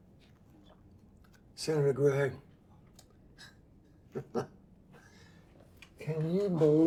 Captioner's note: chuckles